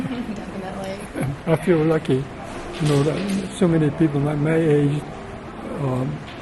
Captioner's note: laughs